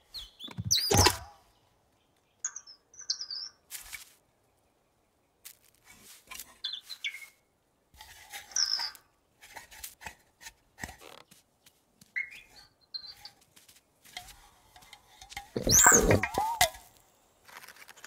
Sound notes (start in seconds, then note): 0.8 frantic chirping; 15.6 growling